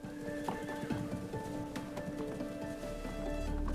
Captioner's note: horses whinnying; suspenseful music